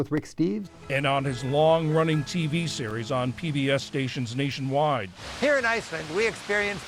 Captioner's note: voice-over